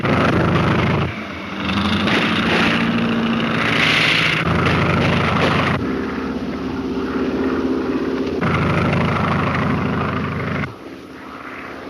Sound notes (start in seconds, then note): 0.2 airplane engine roaring; 2.0 gunshots; 5.7 airplane engine roaring